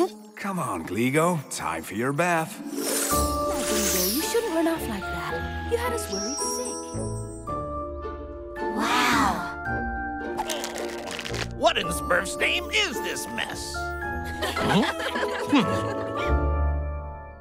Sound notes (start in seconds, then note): 10.2 groaning; 14.4 laughing